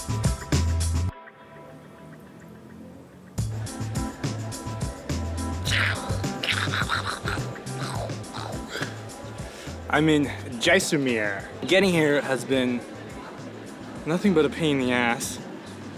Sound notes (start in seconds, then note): 5.7 mock battle noises